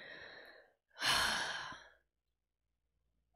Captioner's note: sighs